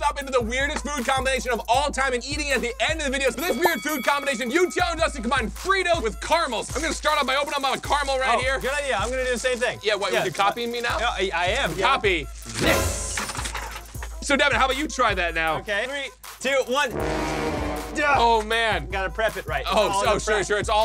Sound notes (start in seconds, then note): 12.4 candy scattering; 12.5 dramatic music; 16.8 failing music